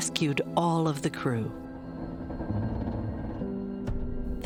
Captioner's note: wood creaking